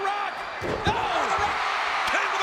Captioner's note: spectators cheering